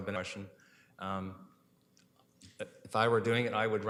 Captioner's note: audio drop